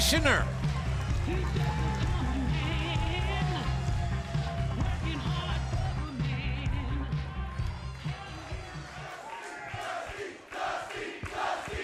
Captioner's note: crowd cheering